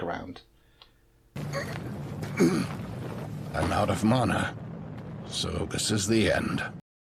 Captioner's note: grunts with exhaustion